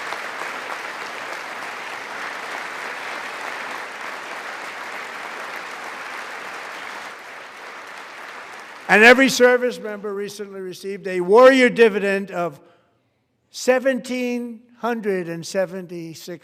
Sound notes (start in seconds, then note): 1.5 applause